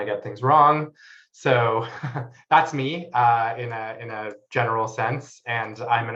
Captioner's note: laughs